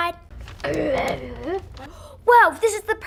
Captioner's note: Frank grunts